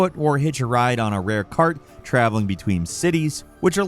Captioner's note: none